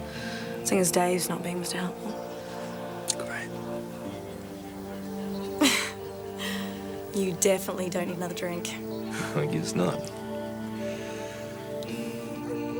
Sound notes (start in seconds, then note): 5.6 Jodie laughs; 9.1 laughs; 12.6 soft instrumental music